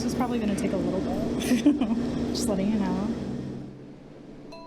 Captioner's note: laughs